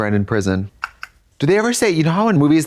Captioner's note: Katya clicks